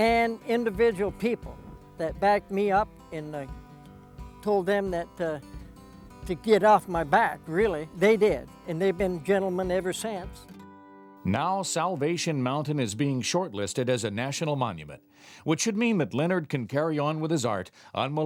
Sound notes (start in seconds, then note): 11.8 voiceover